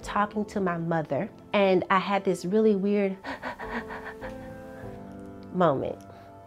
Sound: hyperventilating

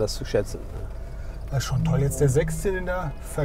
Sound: Schlörb

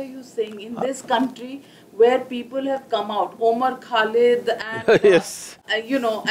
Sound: Sadhguru Laughs

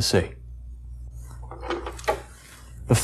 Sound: creaking

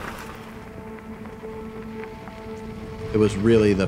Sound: dirt crunching

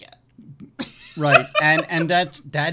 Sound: laughing

